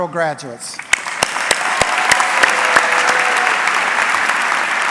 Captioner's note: audience clapping